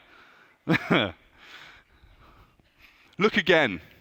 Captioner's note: laughs